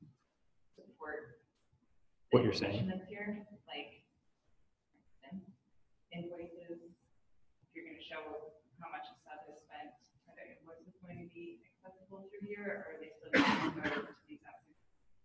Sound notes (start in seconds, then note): 10.4 speaking off mic; 13.3 audience member coughs